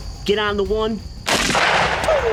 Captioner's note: gunshot